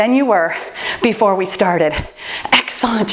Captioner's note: timer beeps